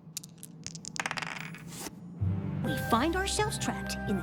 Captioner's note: die clatter